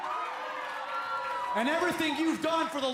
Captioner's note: cheers & applause